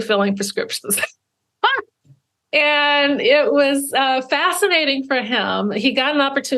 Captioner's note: laughs